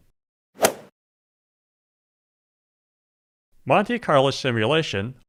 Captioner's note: golf swing sound effect